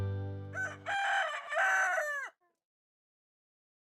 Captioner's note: rooster crows